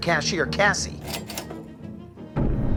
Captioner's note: register sound